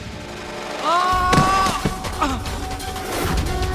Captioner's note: screams